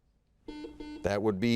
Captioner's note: buzzer beeps